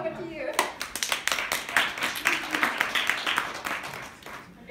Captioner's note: applause